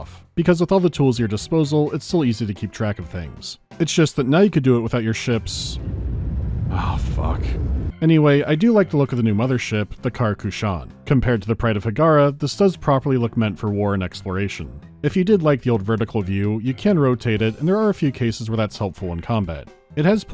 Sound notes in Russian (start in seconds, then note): 5.7 низкий гул